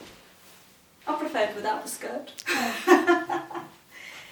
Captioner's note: laughs